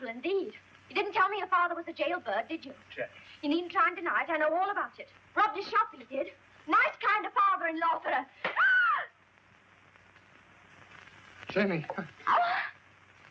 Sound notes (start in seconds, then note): 4.8 shrieks